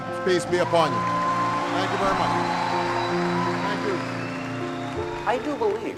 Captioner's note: applause